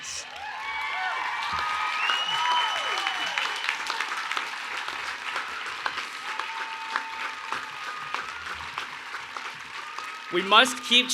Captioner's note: cheers and Applause